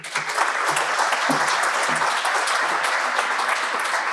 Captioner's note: crowd applauding